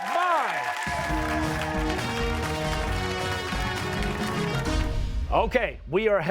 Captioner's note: cheers and applause